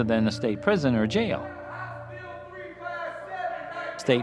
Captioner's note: inmates yelling